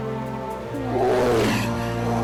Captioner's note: growling